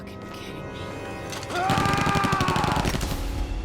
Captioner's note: gunfire